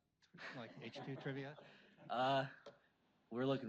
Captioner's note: audience laughs